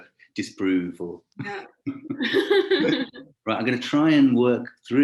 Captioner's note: laughing